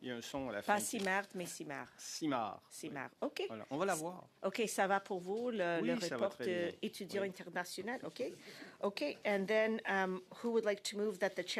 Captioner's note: speaking French